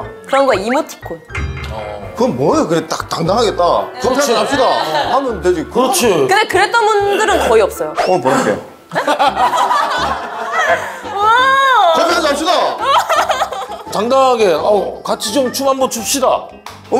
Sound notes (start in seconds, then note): 8.9 hahaha